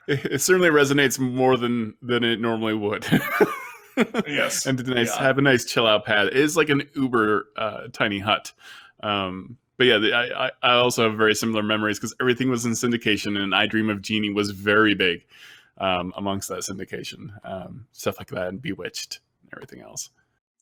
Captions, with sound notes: - It certainly resonates more than it normally would. (laughing) And have a nice chill out pad. Is like an Uber tiny hut. But I also have very similar memories because everything was in syndication and I Dream of Jeannie was very big amongst our syndication, stuff like that and Bewitched everything else.